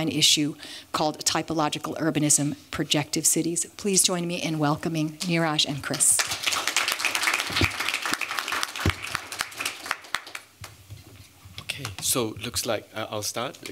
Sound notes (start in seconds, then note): 6.1 applause